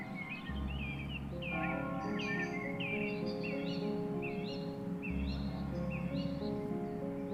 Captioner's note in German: Glocken läuten; Vögel zwitschern; sanfte Musik